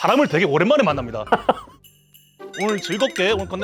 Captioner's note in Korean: 웃음